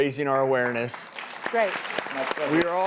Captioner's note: audience applauding